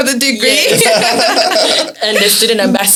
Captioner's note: laughs